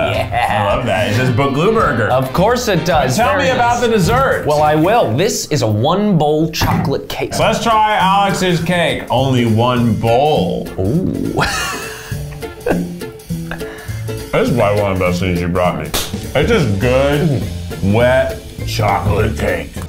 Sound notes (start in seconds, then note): 10.8 laughing